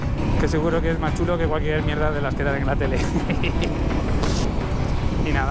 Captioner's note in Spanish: risas